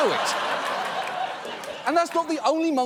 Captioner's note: audience laughing